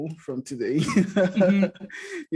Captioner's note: laughs